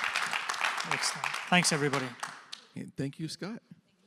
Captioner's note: cheers and applause